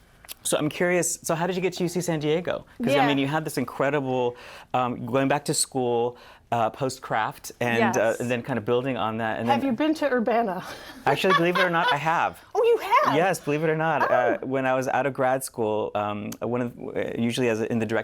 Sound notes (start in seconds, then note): 11.0 laughter